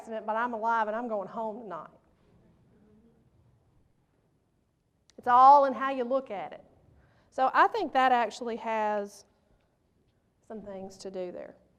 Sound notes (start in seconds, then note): none